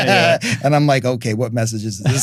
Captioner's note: both laughing